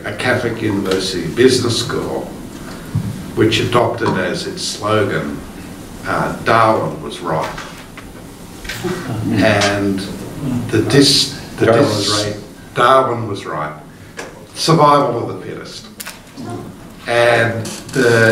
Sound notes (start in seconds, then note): 8.8 group laughing